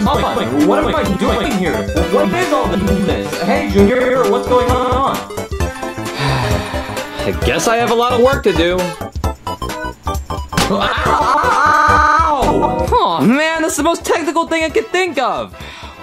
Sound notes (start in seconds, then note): 5.3 upbeat music continues; 6.0 Junior sighing; 10.8 Mario screaming and voice glitching